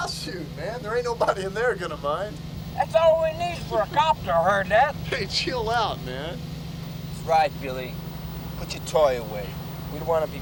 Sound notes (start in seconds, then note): none